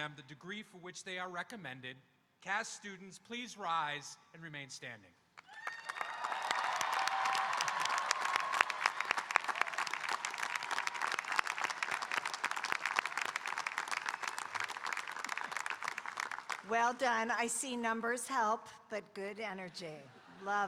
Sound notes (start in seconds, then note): 5.6 audience cheering and applauding; 20.0 audience laughing